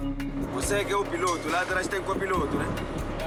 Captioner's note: Portuguese spoken audio